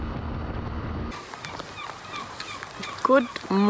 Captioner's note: birds chirping